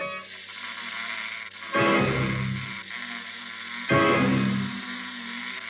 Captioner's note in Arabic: تُصدر الدمية صوتًا مخيفًا